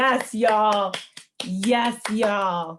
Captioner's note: cast clapping